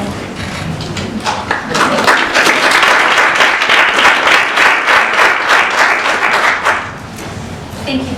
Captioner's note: applause